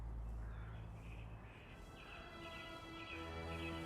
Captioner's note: birds chirping; somber dramatic music continues